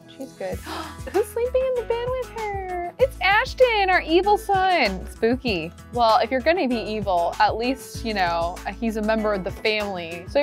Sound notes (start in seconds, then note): 0.6 gasps